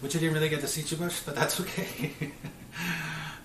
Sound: chuckles

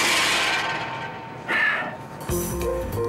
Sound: sighs

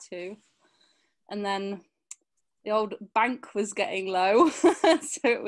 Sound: chuckles

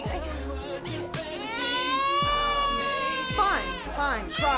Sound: baby crying intensely

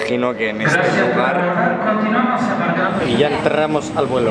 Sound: loudspeaker interrumpts him

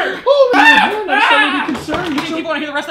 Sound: general chaos

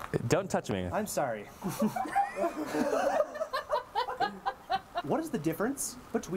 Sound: laughter

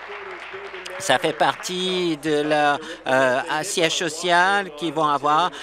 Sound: applause

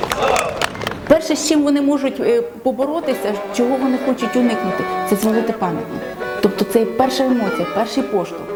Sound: in Ukrainian

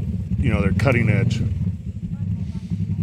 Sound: motorbike engine humming

